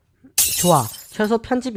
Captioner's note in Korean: 쨍그랑